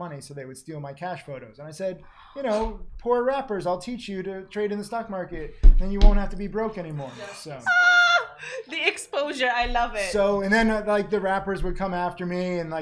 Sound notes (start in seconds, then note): 7.3 yelling